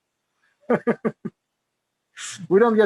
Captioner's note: laughs